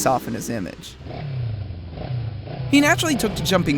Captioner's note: motorcycle revving